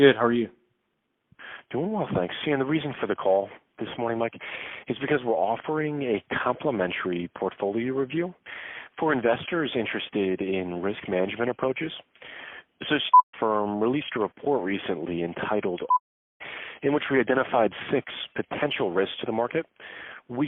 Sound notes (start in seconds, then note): 13.1 beep